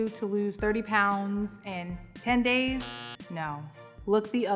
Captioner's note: buzzer sounds